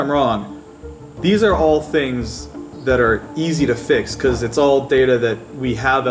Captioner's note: none